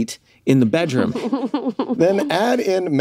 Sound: laughs

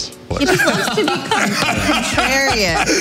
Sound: everyone laughs

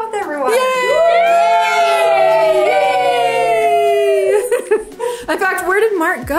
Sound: all cheering

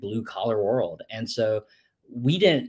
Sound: none

